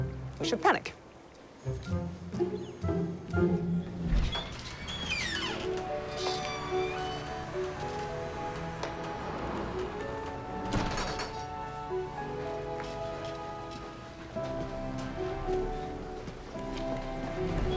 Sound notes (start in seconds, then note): 3.9 door squeaking; 4.3 light music